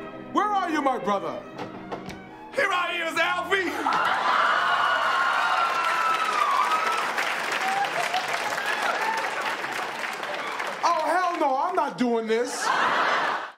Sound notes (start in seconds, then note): 3.7 cheers And Applause